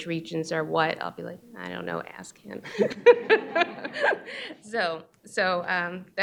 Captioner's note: laughs